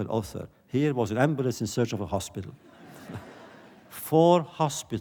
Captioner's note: laughter